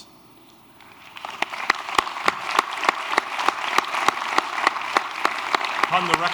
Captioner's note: applause